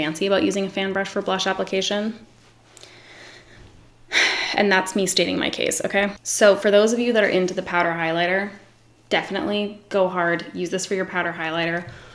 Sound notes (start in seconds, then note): 2.8 sighs